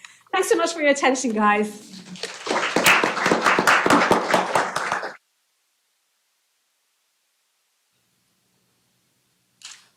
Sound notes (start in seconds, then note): 2.0 applause